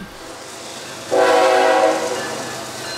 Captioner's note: blast of train whistle